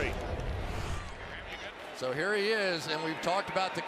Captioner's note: swoosh